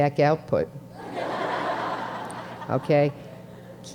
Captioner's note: students laughing